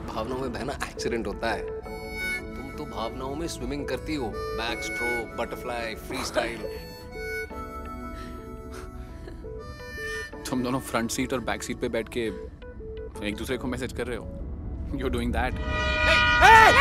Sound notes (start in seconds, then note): 6.5 laughs; 8.8 chuckles